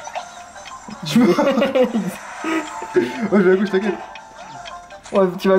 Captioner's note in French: Rires